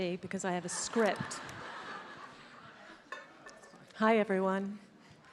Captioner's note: attendees laughs